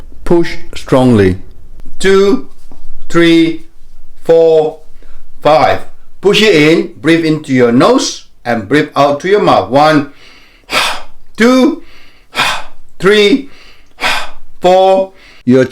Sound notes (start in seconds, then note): 10.1 inhaling and exhaling